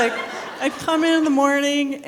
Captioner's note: people laughing